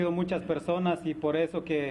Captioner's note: speaking spanish